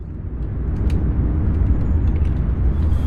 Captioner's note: low rumbling